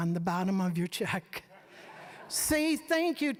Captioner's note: audience laughing